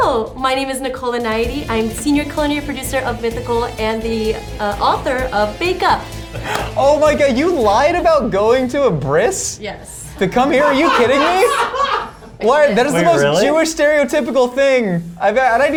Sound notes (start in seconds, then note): 10.2 laughs